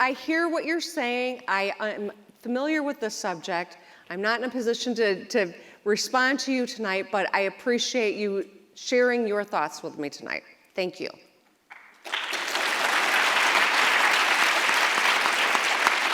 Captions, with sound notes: - I hear what you're saying, I am familiar with the subject, I'm not in a position to respond to you tonight, but I appreciate you sharing your thoughts with me tonight. Thank you. (audience applauds)